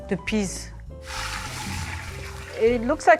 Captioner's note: water whooshing